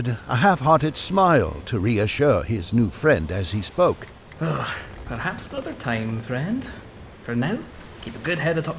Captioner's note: sigh